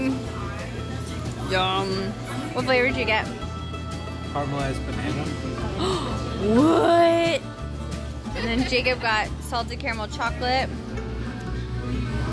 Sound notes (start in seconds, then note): 5.7 gasps; 8.3 OS laughs